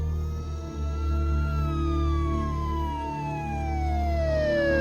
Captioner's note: siren wailing